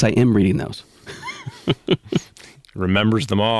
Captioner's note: chuckling